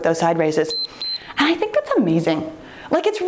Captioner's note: timer beeps